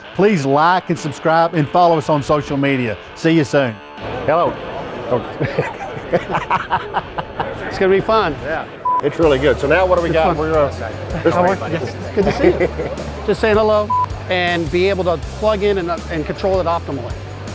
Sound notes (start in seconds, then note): 5.3 both laughing; 8.8 screen beep; 13.8 scree beep